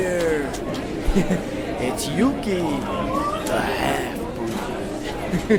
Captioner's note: laughing